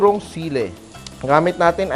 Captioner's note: sizzle